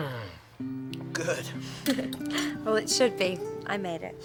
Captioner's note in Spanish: risas